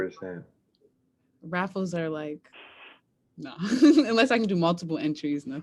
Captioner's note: chuckles